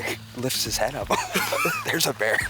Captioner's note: chuckling